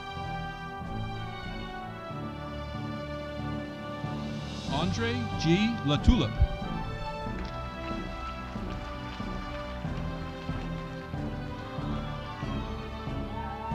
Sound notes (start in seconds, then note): 7.4 audience applauding